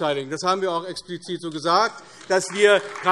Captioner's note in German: Beifall AfD